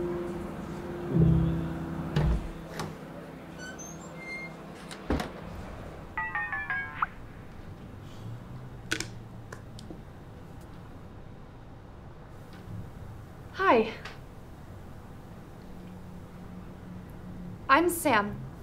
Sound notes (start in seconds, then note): 6.2 phone chiming